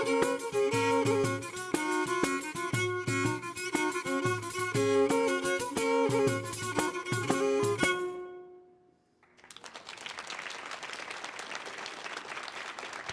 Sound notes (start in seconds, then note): 0.0 lively music continues; 9.2 audience applauding